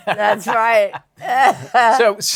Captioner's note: laughs